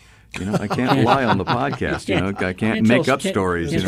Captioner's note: laughter